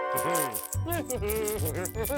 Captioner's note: humming